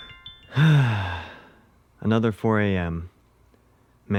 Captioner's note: sigh